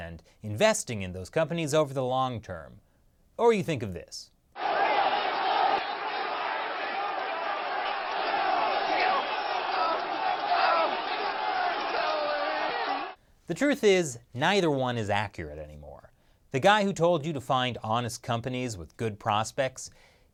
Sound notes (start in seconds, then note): 4.5 people screaming